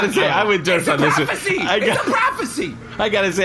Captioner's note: laughing; shouting